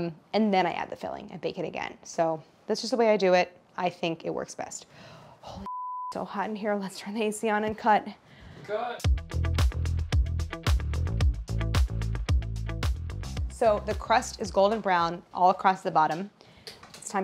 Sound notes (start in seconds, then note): 5.6 beep; 9.0 upbeat bright music